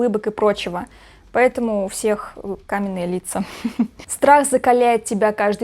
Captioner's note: ahahah